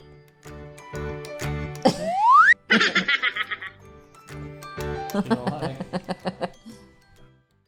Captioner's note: chipmunk laughing